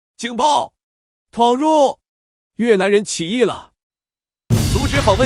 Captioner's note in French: en Mandarin